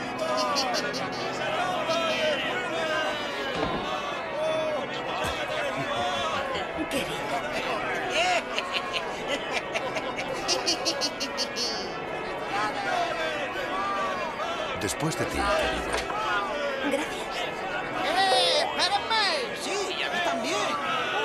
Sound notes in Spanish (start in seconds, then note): 0.2 ríe; 1.8 ovación; 8.2 ríe